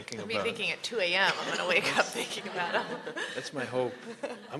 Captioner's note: laughter